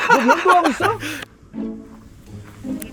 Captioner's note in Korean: 웃음